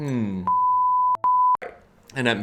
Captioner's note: electronic beeping